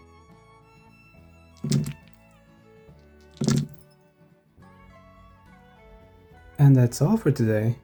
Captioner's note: dice rolling